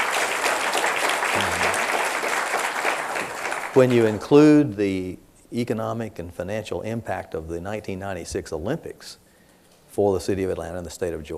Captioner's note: applause